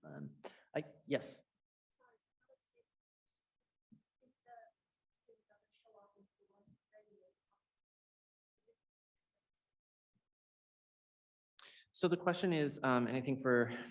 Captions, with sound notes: Yes. (voice muffling) So the question is, and I think,